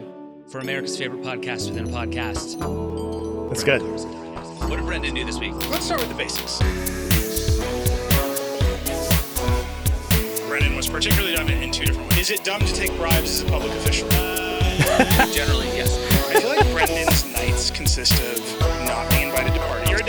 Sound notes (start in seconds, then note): 7.2 upbeat music; 16.0 laughs